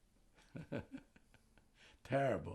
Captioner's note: laughing